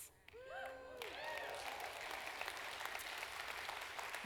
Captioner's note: applause